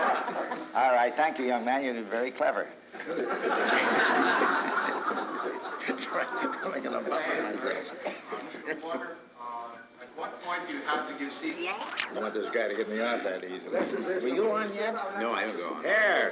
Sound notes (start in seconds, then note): 2.9 crowd laughs